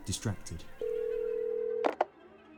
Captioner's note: phone clicks; ringtone